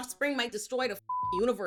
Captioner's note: beep